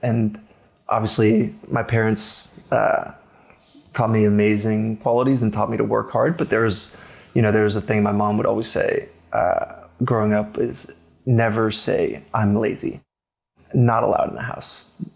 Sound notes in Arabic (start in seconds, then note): none